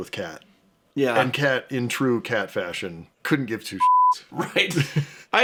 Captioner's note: beeps